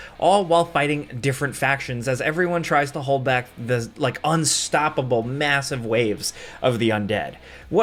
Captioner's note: none